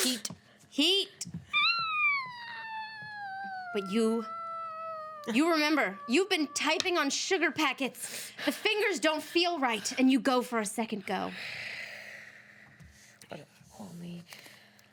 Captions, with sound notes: Heat, heat! (woman squeals) But you, you remember. You've been typing on sugar packets. The fingers don't feel right, and you go for a second go.